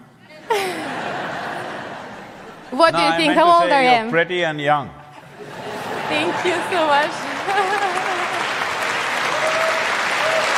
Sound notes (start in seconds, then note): 0.4 laughter; 5.2 laughter/Applause